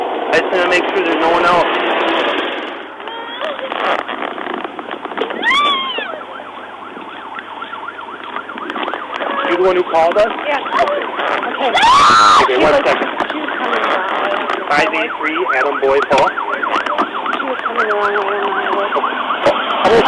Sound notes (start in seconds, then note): 3.5 screams and cries; 6.2 siren; 11.7 screams